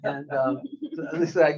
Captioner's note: audience laughing